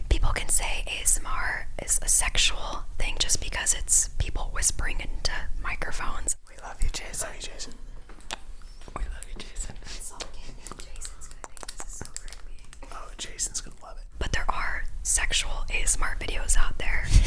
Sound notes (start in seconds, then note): 8.1 soft kissing